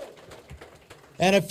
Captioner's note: applause